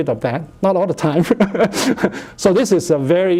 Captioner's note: laughs